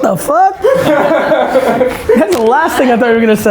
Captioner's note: laughs